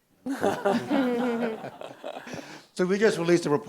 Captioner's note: panelists and audience chuckling